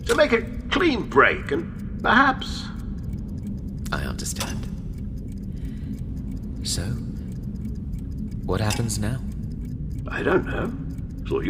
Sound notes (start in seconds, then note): 9.2 clock ticking